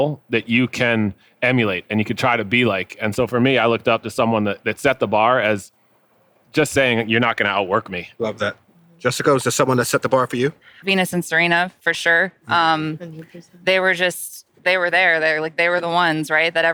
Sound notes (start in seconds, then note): 12.3 La La speaking faintly